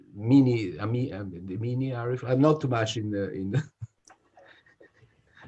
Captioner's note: laughs